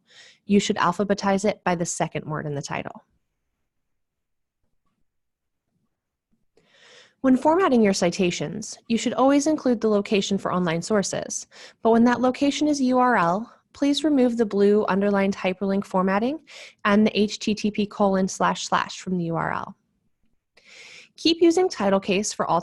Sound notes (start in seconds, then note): 3.9 silence